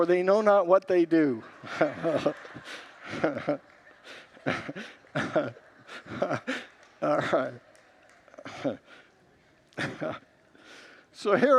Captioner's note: congregants laugh